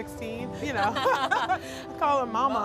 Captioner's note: laughs